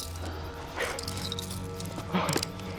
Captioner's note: heavy breathing